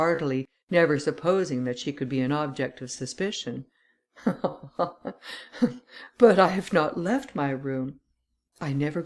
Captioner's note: laughter